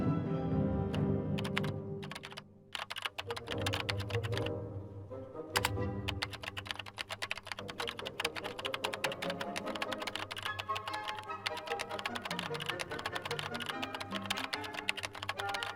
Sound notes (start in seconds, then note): 0.1 bright upbeat music; 2.7 keyboard clicking